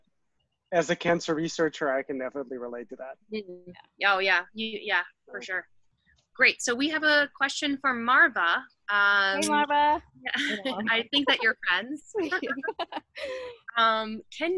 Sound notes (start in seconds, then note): 10.3 laughs